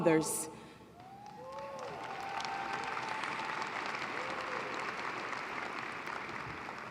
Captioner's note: applause